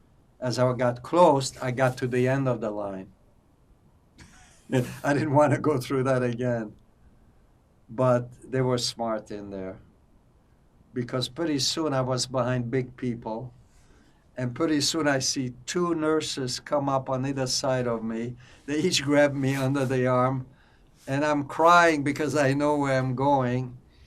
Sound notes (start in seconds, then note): 6.8 laughing